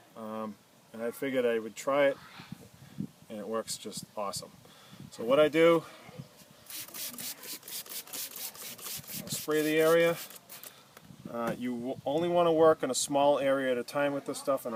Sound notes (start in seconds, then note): 6.6 spraying sounds